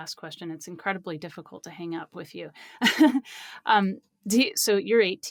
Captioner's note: laughs